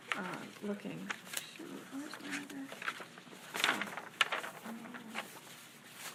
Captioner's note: speaking faintly